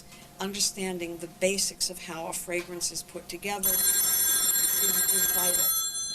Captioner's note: phone ringing